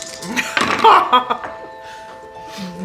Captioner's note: Arielle laughs